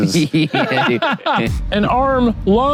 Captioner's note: both laugh